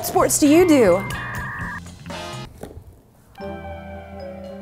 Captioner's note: machine beeping; mellow music